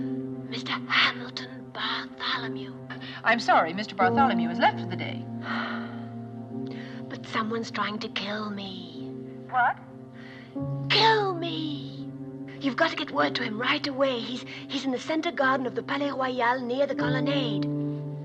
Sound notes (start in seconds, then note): 5.4 sighs; 10.0 whispering louder